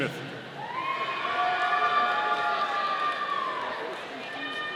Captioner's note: audience cheering